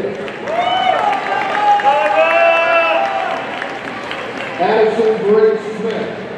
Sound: audience cheering and applauding

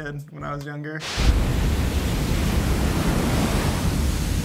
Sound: waves crashing

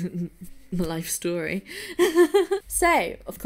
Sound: laughing

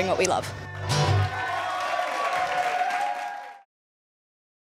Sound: cheering and applause

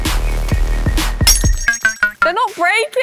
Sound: descending notes; glass breaking

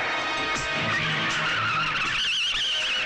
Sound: tires Screeching

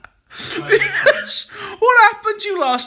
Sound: laughing

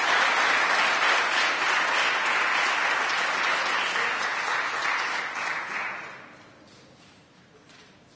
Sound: applause

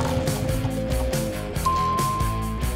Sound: dinging

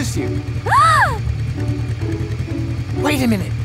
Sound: gasps happily

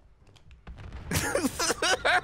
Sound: explosion; laughing

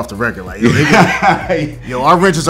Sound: laughs

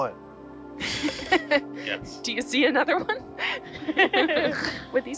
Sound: researcher 1 and Researcher 3 laughs; chuckles

